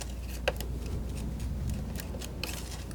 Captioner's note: scissors snipping